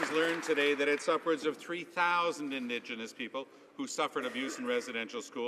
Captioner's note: some Applause